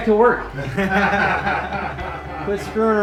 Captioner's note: laughter